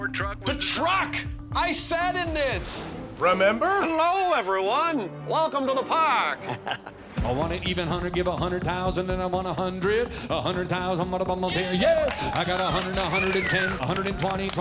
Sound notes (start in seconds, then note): 6.4 chuckles; 11.9 rapid auctioneering